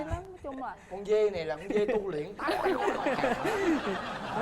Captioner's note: laughing